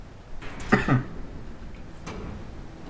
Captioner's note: coughs